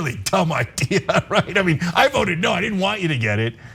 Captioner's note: laugh